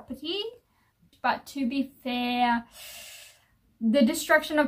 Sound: sucks air through teeth

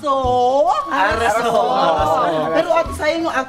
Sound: in Korean-ish

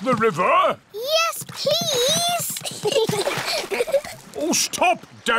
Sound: giggles

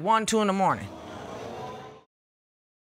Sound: audience exclaims

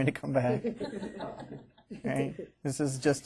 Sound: students laughing

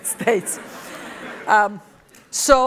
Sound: laughter

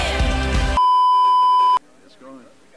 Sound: beeeeeep

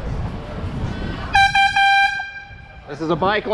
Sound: airhorn

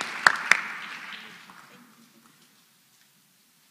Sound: applause

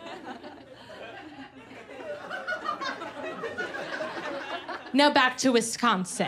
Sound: laughter

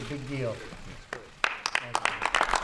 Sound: applause

